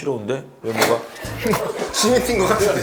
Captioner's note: pfffft